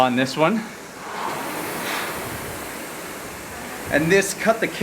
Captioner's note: rowing machine whirring